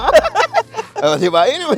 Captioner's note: both continue laughing